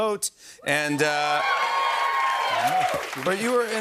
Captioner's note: cheers and applause